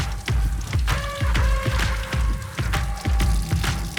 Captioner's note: energetic music; food sizzling